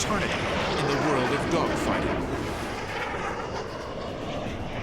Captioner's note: jet engine noises